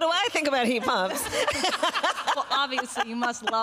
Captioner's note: laughter